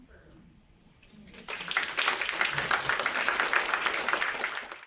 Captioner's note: applause